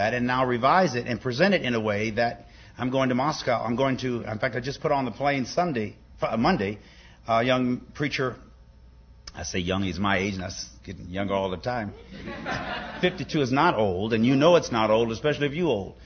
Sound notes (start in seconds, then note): 11.9 laughter